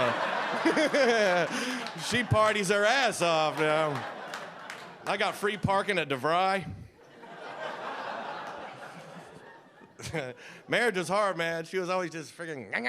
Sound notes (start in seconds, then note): 0.0 audience laughing